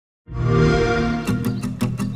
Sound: xbox sound

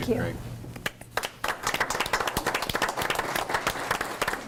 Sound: group applauds

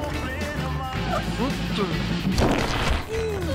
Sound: doll blows up

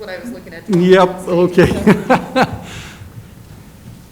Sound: laughs

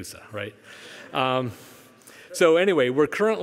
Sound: audience chuckling

